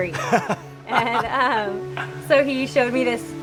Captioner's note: laughing